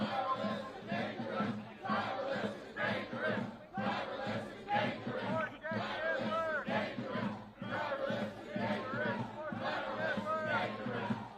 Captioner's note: chanting